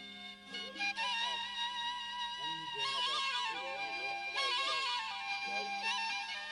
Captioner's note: chattering